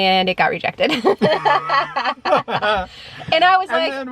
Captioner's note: both laugh